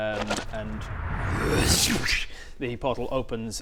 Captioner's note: wrrrrshrshchhcch